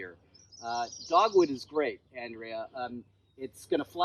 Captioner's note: bird singing